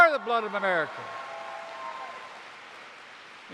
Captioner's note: applause